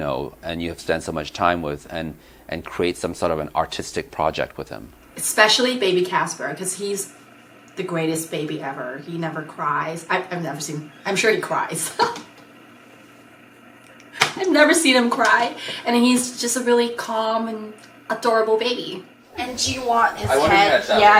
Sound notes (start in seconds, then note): 11.7 laughing